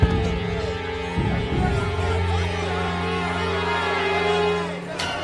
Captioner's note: crowd chanting